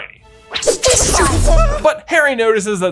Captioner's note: Ron yelps